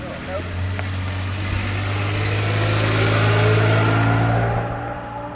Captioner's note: engine purring; car speeding off